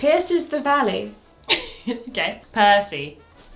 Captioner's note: laughs